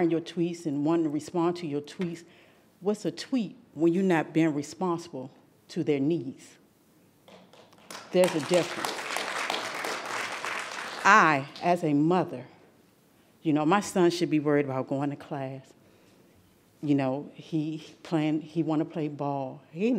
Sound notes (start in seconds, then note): 7.3 audience applauding